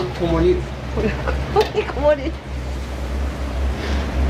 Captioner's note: laughter